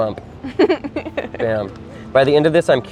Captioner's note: laughing